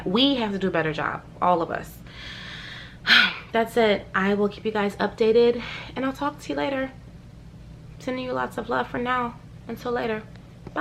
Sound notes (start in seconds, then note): 2.2 sighs